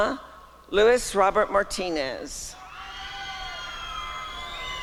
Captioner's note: applause and cheering